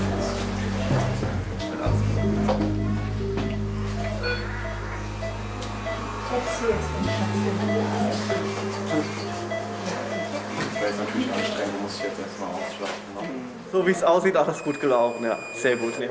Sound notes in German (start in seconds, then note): 5.5 Piepen, leises Gespräch